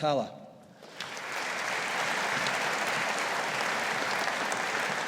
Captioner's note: audience applauding